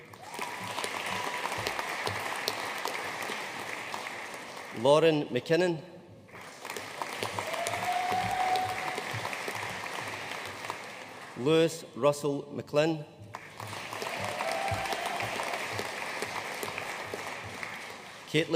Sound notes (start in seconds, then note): 0.0 audience applauding; 6.3 audience cheering and applauding; 13.4 audience cheering and applauding